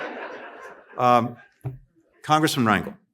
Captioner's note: laughter